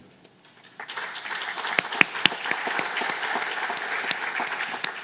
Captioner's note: applause